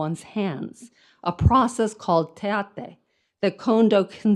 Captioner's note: speaks in foreign language